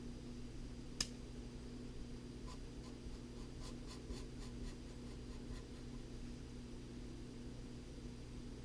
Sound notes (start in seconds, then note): 3.2 pen writing on paper